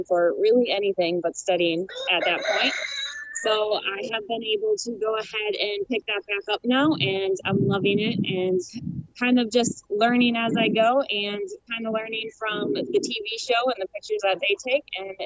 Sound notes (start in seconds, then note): 1.9 rooster crows